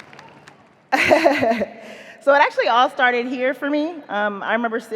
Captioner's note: laughs